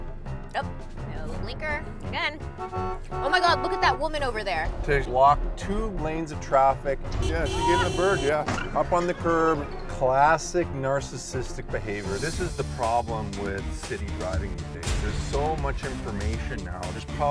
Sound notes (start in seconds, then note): 2.5 car honking